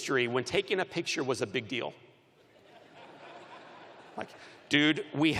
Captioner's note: laughter